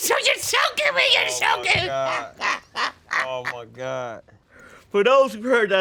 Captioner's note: laughing